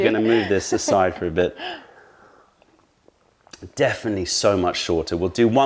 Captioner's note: sips tea